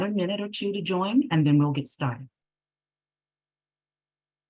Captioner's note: speaking spanish